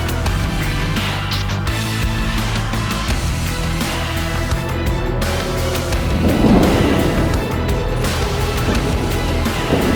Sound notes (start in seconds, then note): 0.0 electronic music playing; 5.8 slams; 7.6 electronic music playing